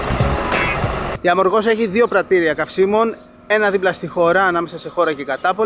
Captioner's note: Chora